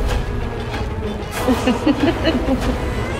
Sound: evil laughter

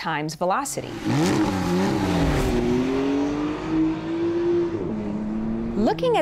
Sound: engine revving

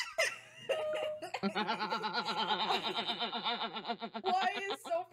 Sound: laughing

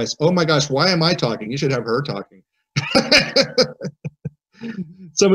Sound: laughs

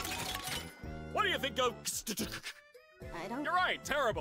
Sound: stammers

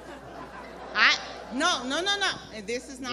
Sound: crowd laughs

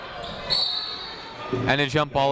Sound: whistle tweeting

